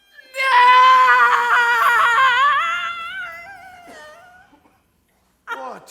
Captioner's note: Lady Macbeth Wailing